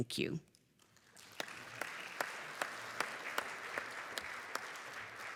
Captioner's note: applause